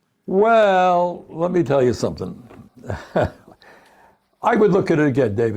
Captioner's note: laughs